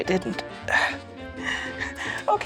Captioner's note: laughs